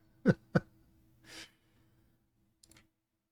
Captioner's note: chuckles